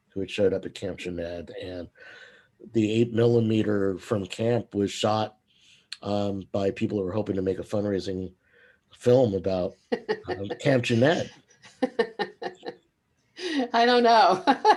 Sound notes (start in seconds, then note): 11.6 laughs